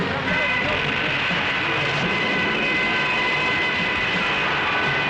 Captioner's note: soldier speaking in foreign language; planes screaming